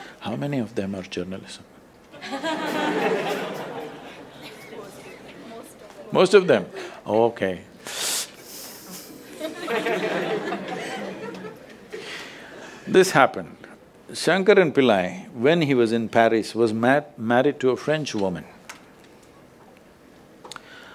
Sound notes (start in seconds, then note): 2.1 laughter; 5.3 laughs; 8.8 laughs/Laughter